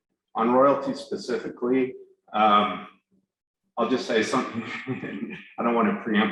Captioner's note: laughs